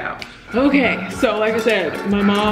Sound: loud banging

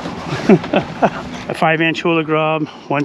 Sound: laughing

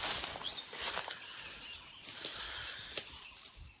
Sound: birds noise

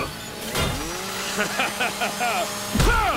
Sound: laughing; grunting

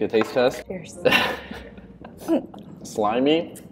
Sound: laughing

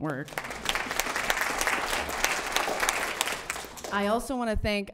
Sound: group applause

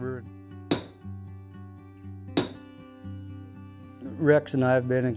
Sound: hammer tapping

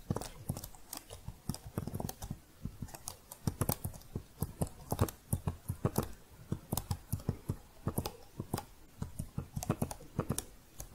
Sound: typing continues with some shuffling

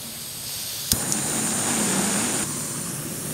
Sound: gas releasing; flame blowing

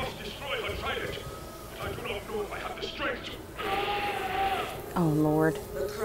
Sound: screams

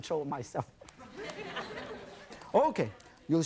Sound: audience laughing

